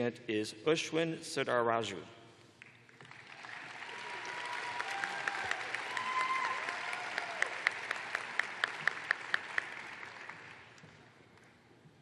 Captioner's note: cheers and applause